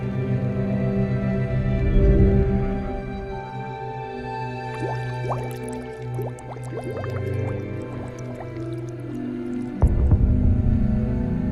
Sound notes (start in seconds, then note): 2.9 ominous instrumental music continues; 4.2 water bubbling